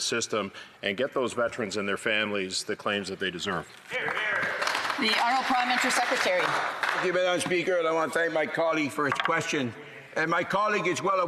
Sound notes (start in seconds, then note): 8.0 some Applause